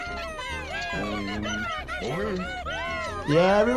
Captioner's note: animals laughing